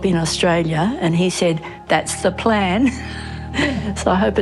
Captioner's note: laughs